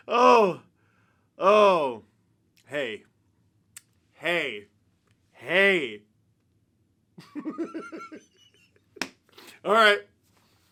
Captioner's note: laughter